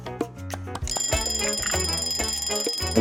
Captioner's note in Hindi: अलार्म बजते हुए